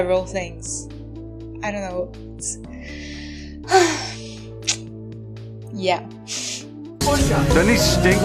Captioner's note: sigh